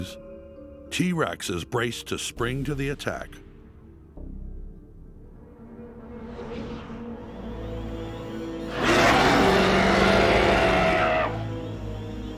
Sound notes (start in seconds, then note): 8.6 roars